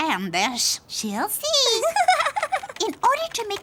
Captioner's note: Anna giggling